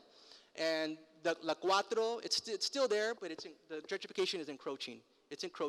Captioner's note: foreign language